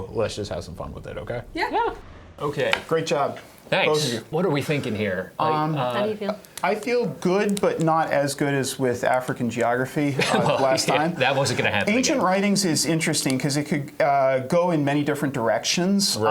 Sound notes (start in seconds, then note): 10.1 laughter